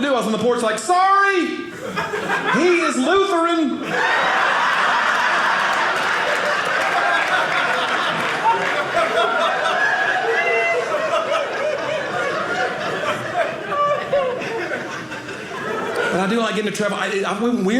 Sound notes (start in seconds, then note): 4.1 audience laughing; 6.5 audience applauding